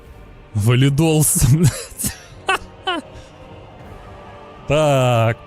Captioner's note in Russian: смех